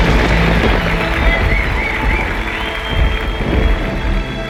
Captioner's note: thunder rolls